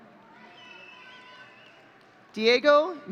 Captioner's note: audience cheering